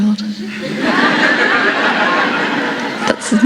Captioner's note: laughter